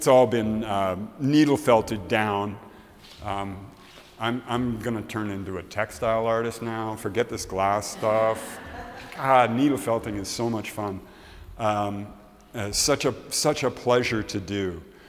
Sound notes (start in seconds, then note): 7.9 laughs